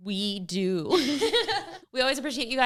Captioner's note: women laughing